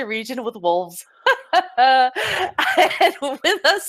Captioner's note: laughs